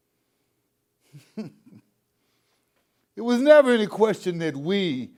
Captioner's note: chuckles